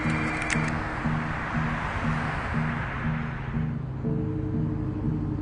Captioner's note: traffic rumbling quietly; light suspenseful music